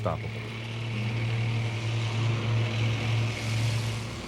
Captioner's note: engine rumbling